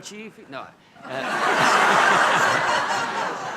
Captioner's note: laughter